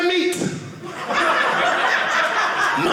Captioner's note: audience laughing